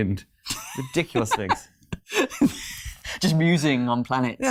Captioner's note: laughing